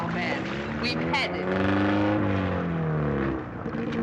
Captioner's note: car engine roars